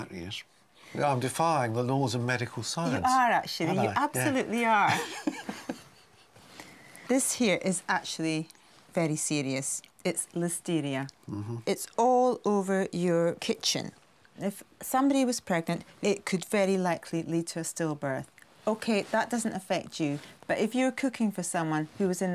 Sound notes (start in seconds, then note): 4.9 laughing